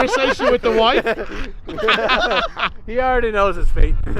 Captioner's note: they all laugh